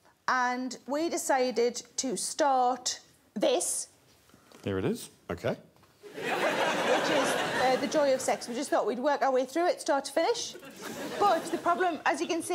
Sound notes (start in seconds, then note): 6.0 laughter